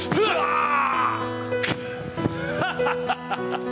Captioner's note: Iron Man groaning; Loki laughing